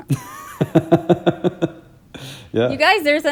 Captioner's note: laughing